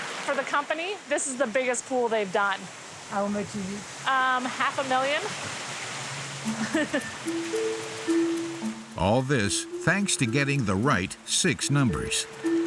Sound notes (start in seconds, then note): 5.8 laughs